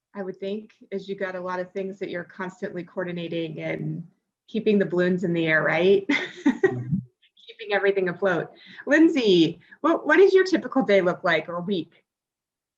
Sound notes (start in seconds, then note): 6.6 laughs